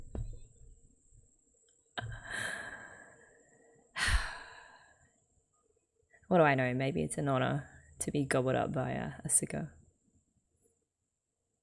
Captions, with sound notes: [sighs] What do I know? Maybe it's an honor to be gobbled up by Asuka.